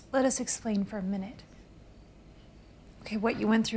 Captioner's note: crickets chirping